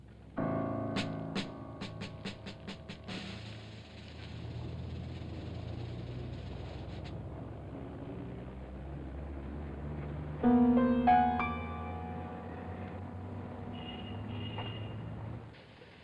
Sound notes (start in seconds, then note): 0.3 ominous tone; 4.5 city street sounds